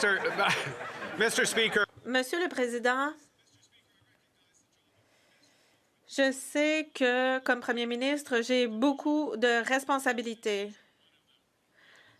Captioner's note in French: voix de l'interprète